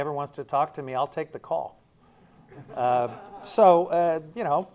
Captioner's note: laughter